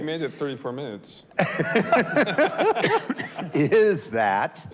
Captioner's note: panelists laughs